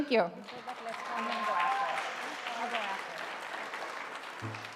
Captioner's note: audience applauding